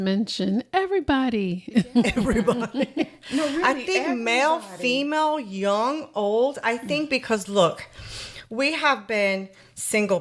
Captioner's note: laughter